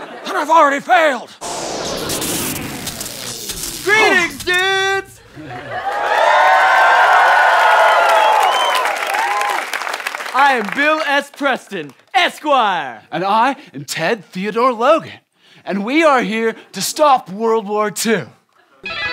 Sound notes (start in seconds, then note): 1.4 whirring again; 5.4 cheering